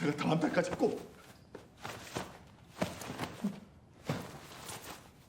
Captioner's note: man speaking in foreign language; jacket rustling